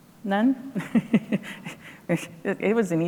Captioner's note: laughs